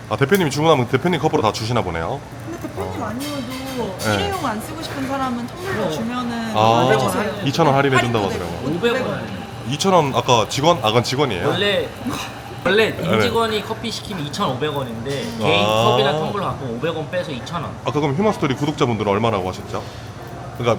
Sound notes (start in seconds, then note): 11.4 frustrated